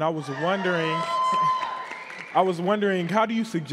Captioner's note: attendees applauding and cheering